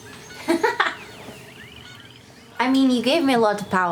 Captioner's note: laughs